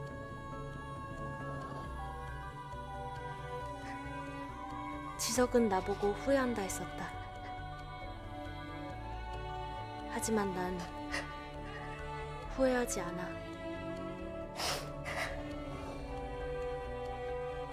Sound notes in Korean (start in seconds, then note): 0.1 고조되는 음악; 14.5 지석 흐느끼는 소리; 16.3 고조되는 음악; 16.3 시계 째깍이는 소리